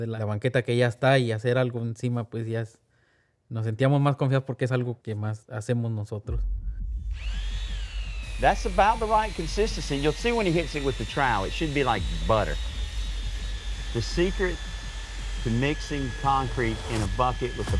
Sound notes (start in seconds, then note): 7.7 mixer whirring